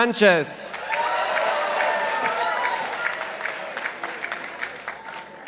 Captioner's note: participants applauding